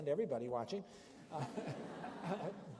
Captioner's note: laughter